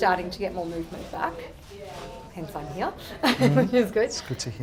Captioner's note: laughs